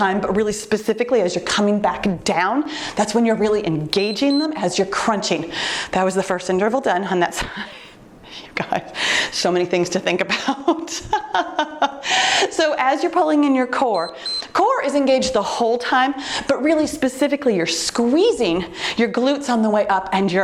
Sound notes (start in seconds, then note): 3.9 timer beeps; 10.3 laughing; 13.8 timer beeps